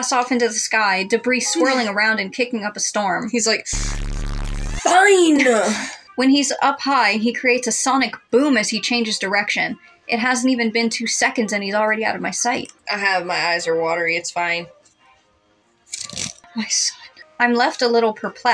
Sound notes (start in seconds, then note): 1.5 giggle; 5.4 chuckle